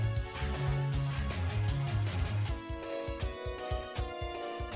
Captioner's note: horn